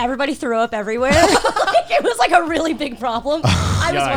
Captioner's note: guys laughing